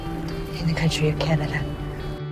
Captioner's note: voiceover